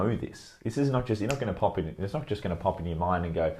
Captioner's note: fingers snap